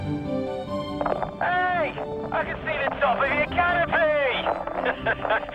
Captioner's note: pat; laughs